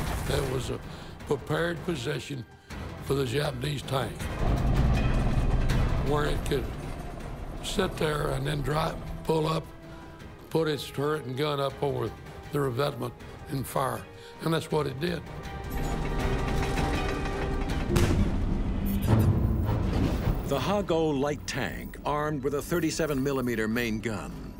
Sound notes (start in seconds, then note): 4.2 tank rumbling; 15.4 tank rumbling; 16.0 cannon shot exploding